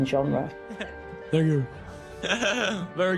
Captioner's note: laughing